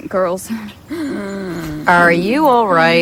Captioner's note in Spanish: respiración fuerte